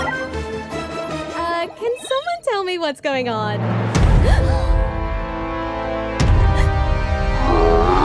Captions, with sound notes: MEGUMI Ahhh…Can someone tell me what’s going on? ANA/MEGUMI (Gasp)